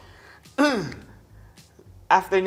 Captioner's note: clears throat